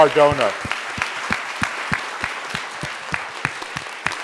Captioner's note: audience applauding